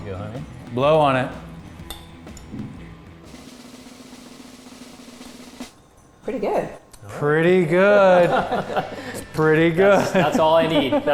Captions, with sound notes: - There you go, honey. - Blow on it. (light drum roll) - Pretty good. - All right. - Pretty good (laughs). It's pretty good. - That's all I need.